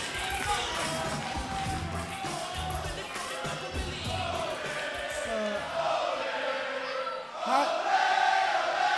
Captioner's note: crowd cheering